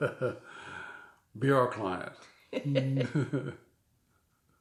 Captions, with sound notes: - Be our client. (both laughing)